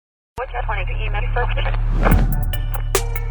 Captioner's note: communication Emergency Messages on Microphone